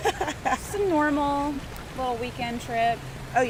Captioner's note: laughs